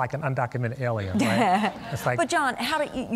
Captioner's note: laughter